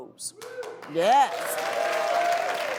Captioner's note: audience cheers and applauds